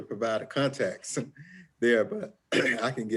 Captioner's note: chuckles